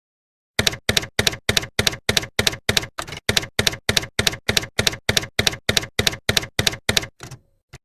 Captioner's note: typewriter keys clacking